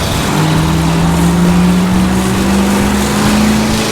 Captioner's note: engine roaring